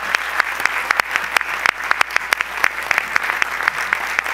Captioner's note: audience applause